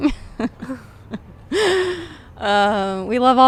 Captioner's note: laughing